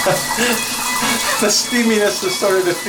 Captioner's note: chuckles